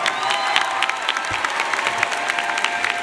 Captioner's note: audience cheers and applauds